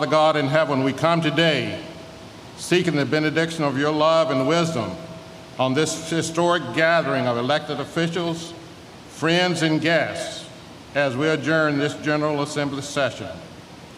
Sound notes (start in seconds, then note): 1.0 speaking in native tongue